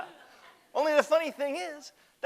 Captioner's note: audience laughter